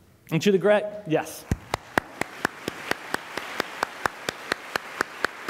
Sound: applause

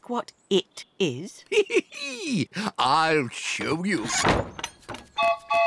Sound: chuckles; train whistle toots

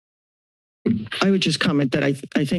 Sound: mic thumps

